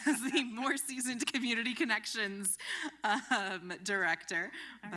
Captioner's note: laughter